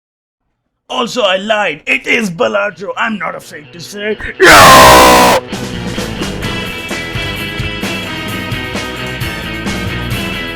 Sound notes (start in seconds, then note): 2.7 intangible scream